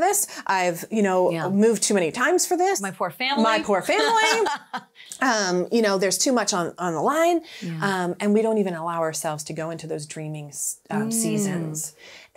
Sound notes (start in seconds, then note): 3.8 laughing